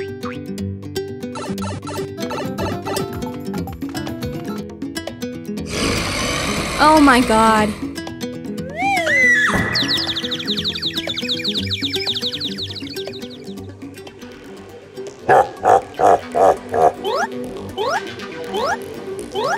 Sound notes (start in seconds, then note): 8.7 Peach screams; 15.3 Bowser laugh